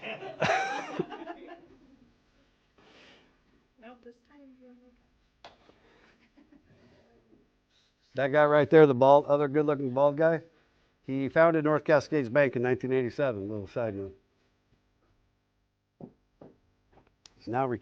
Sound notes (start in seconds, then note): 3.1 laughter